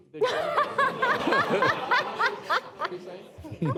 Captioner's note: laughter